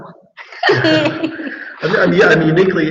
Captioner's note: laughing